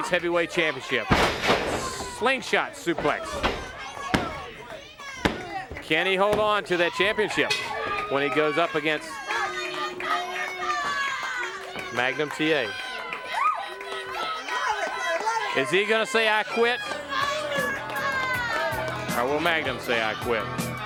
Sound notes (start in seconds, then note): 9.2 crowd chatter; 12.0 bell ringing; 13.4 crowd chatter; 15.1 crowd chatter